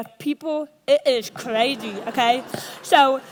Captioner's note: audience laughs